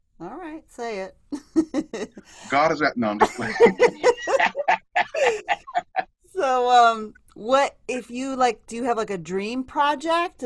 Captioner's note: laughter